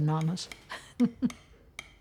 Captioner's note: chuckles